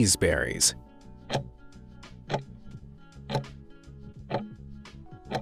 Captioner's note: timer ticking